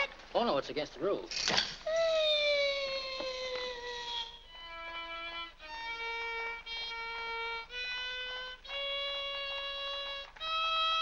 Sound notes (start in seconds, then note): 1.4 loud click; 2.3 Harlan makes whining sound; 4.6 violin plays unsteadily